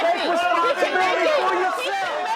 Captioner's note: group yelling